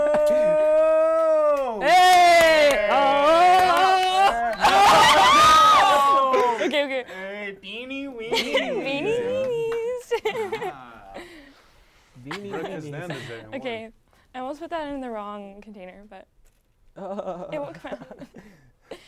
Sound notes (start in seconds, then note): 2.9 yells